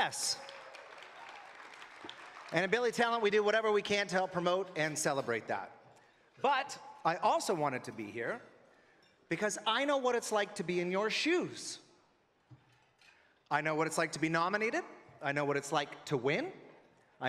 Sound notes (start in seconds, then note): 3.9 cheering and Applause